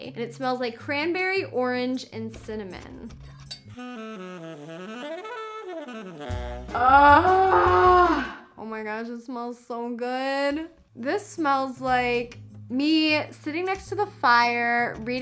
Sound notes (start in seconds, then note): 2.1 instrumental music; 3.5 glass chinks